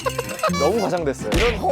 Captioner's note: haha!